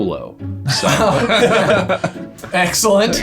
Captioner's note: both laughing